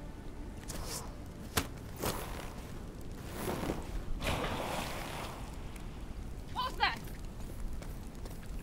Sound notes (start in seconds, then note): 0.6 arrow whooshes and pierces; 3.3 water splashes